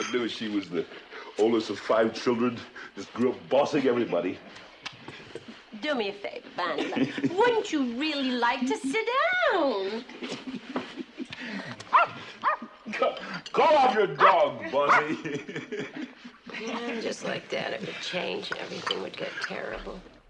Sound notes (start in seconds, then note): 11.9 dog barks; 14.7 chuckles